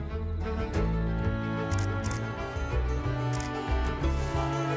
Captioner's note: camera clicks